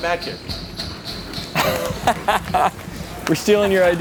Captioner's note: laughs